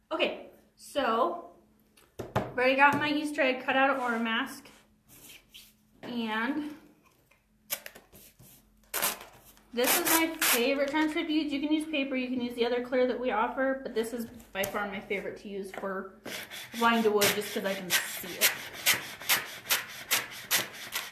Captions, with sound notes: Okay, so I've already got my Easter egg cut out of Oramask. (tearing) And this is my favorite transfer to use, you can use paper, you can use the other clear that we offer, but this is by far my favorite to use for applying to wood just 'cause I can see it. (brushing)